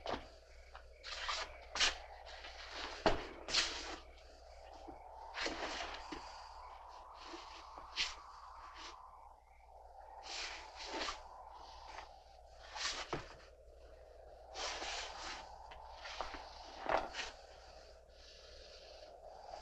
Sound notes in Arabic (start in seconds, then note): 6.5 الريح تستمر في الهدير